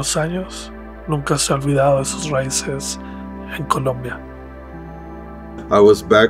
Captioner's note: narrator continues to speak Spanish